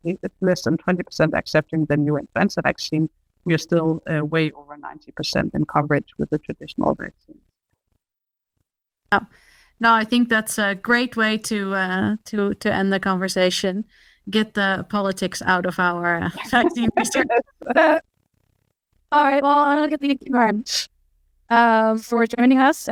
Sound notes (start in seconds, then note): 16.3 laughter